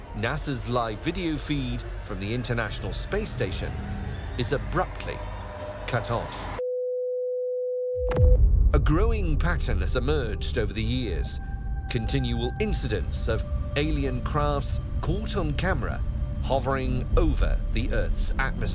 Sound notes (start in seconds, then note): 6.8 screen beeps